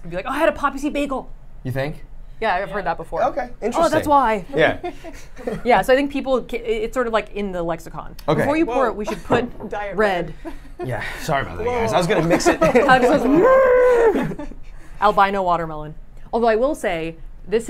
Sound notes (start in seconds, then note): 4.5 laughs; 11.9 laughs